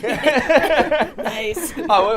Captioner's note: all laughing